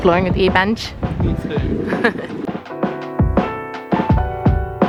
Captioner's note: laughing; chill music continues